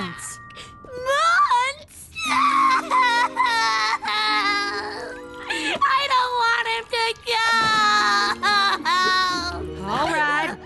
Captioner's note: wailing